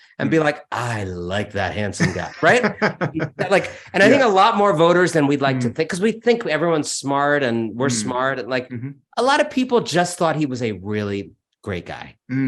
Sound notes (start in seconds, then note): 1.8 laughs